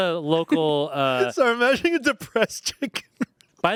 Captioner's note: laughs